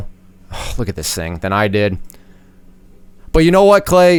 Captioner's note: sighs